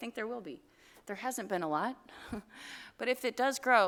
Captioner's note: chuckle